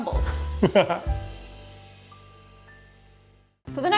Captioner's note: jazz music; laughing